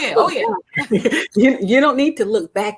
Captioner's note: ladies laughing